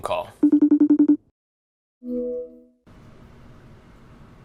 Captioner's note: phone ringing